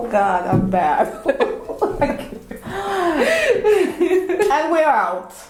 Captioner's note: laughing